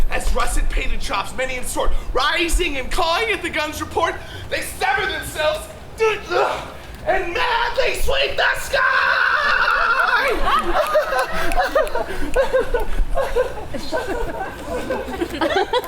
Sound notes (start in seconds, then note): 6.3 grunts; 9.4 audience laughs; 10.6 Puck laughs